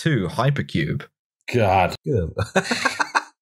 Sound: laughter

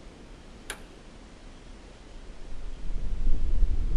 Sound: knob clicking

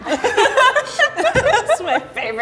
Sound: laughing

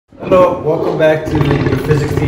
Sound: tiger roars

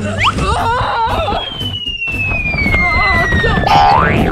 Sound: cries loudly

